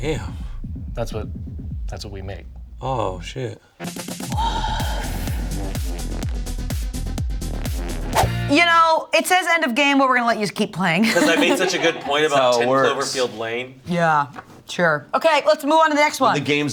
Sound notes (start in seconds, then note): 3.8 upbeat music; 11.0 laughs